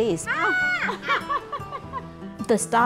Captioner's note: laughing